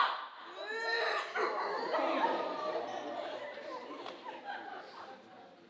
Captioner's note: Pluto loudly sobbing